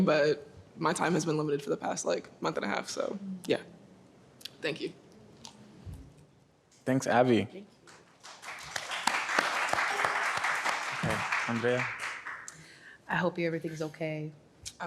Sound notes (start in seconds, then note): 7.9 audience applauds